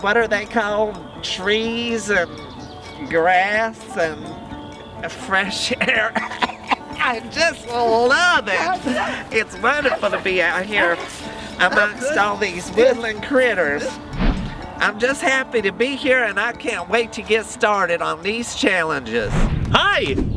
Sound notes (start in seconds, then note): 5.6 coughs